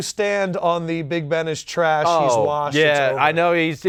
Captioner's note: sarcastically